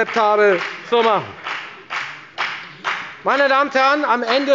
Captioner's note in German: Beifall bei der FPD